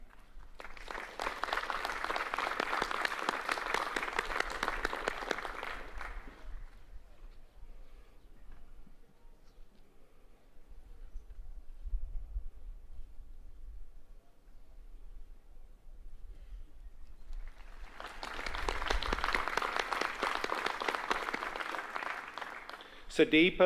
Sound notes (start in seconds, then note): 3.8 applause; 18.9 applause